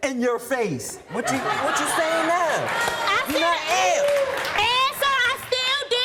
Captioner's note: audience laughs